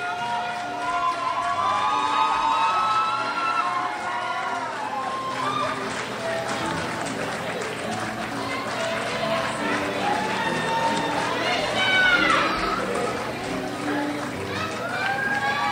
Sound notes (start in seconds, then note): 2.6 crowd cheers